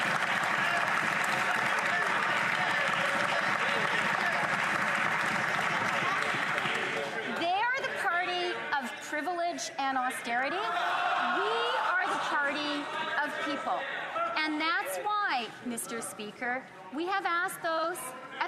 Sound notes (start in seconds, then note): 3.2 some Applause; 4.0 cheering